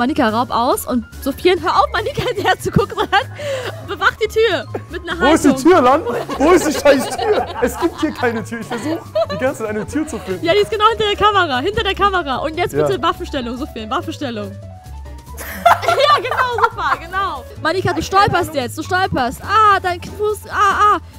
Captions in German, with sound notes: Manika, raub aus. Und Soufiane, hör auf, herzugucken, bewach die Tür! Mit 'ner Hand oben. - Wo ist die Tür? Wo ist die Scheißtür? Es gibt hier keine Tür! Ich versuch die ganze Zeit, eine Tür zu finden. Die ist genau hinter der Kamera. Und jetzt bitte Waffenstellung! (Unruhige Musik) (Lachen) Genau, super! Manika, du stolperst. Ah, dein Knöchel, ah!